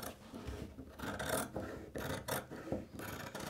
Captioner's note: cutting noises